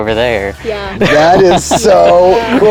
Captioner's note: laughing